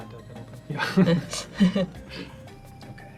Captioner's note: all laugh